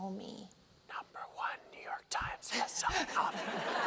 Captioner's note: whispered; laughter